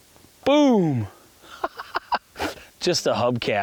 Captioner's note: laughs